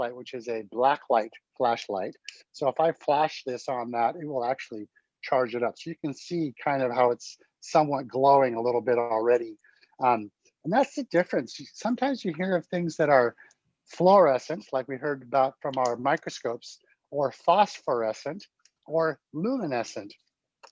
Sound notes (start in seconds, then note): none